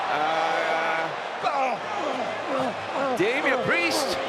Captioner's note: applause